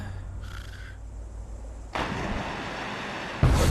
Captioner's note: water splashing